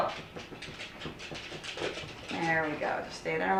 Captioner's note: paws clicking on floor